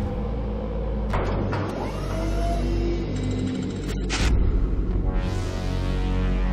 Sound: ship whirring and clanging; ominous synth music

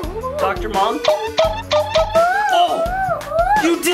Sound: cartoony injection sound

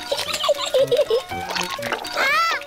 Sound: giggles

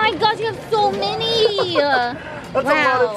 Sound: laughs

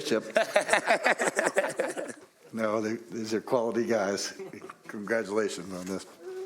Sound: laughter; laughter

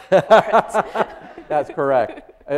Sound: audience laughing

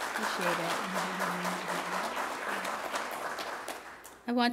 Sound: applause

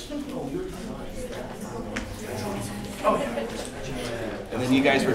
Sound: background Discussion

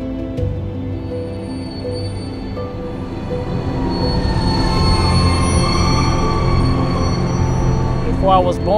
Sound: screech of lock gates opening

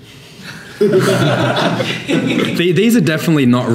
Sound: laughing

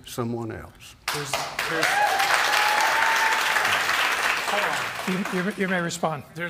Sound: applause

